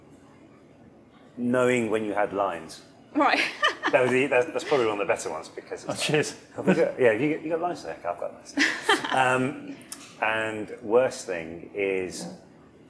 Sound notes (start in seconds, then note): 8.5 chuckling